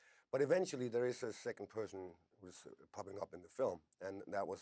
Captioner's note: none